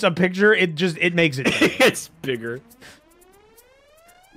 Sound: laughs

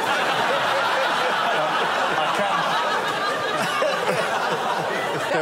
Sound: laughter

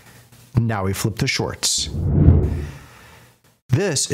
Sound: air whooshing

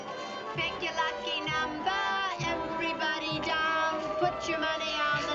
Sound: singsongy

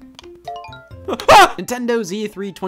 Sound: chimes; screams

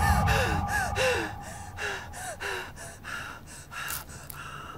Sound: panicked breathing

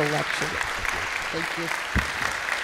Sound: audience applauds

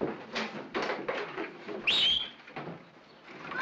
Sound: he whistles

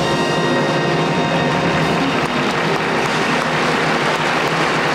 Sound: audience applauding

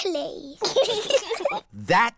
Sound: both giggle

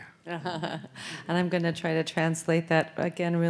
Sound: laughs

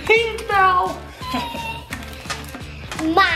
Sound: whining

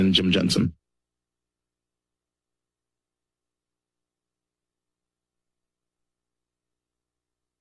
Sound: silence

